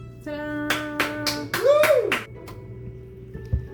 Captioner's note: audience member cheering